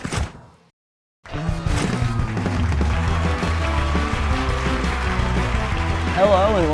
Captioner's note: applause and cheering